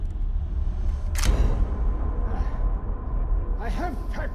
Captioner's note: tense music; camera clicks